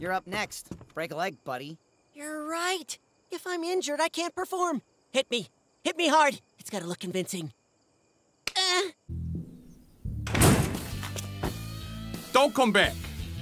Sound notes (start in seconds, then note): 8.4 light slap sound, Neil gasps; 10.2 metal door clunks open